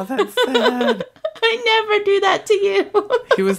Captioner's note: laughs